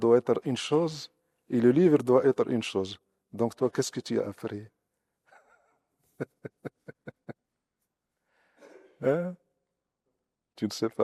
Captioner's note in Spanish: risas